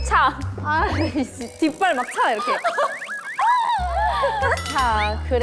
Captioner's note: tap tap / Tap tap